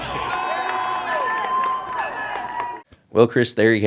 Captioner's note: cheering